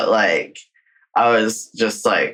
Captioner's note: laughing